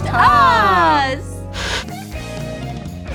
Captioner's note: Static; upbeat Music